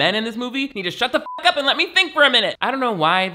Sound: beep

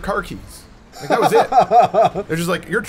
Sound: laughs

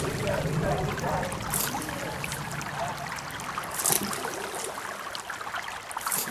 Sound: sound of running water

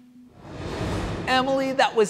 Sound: air swooshing

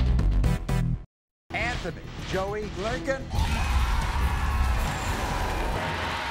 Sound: audience cheers

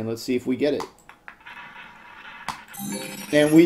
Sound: ball rolling; successful chime

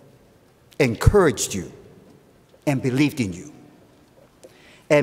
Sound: none

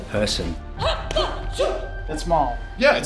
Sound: shouting

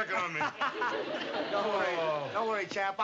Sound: laughs

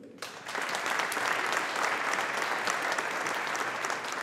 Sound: audience applauding

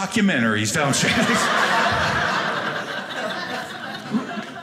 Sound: audience laughing

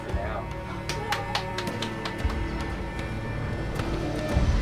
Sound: clapping; slow dramatic music

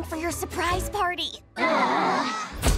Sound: siblings groaning

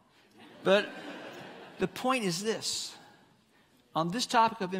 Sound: congregants laughing

